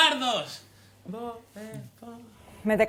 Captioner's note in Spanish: voz baja